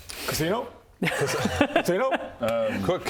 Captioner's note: good idea laugh